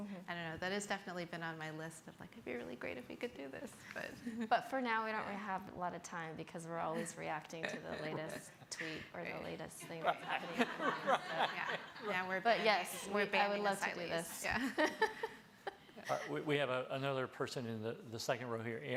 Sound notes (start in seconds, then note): 11.4 laughing; 15.7 laughing